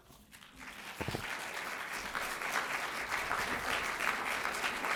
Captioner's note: applause